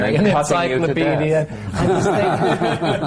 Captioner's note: laughter